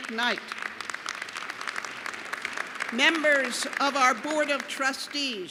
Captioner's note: applause